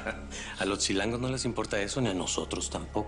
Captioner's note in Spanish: Risas